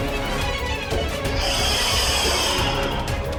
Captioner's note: hissing